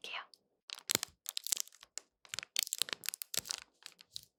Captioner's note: crinkle crinkle